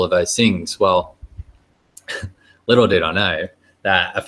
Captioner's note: wry chuckling